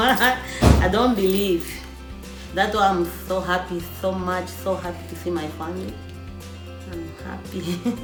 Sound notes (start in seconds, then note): 7.6 laughs